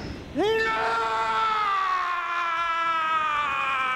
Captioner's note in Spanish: Gritando